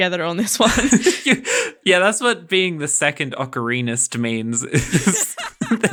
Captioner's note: laughing